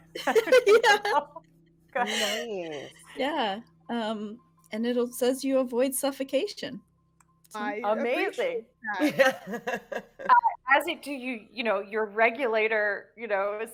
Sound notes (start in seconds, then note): 0.1 people giggling; 9.0 person chuckling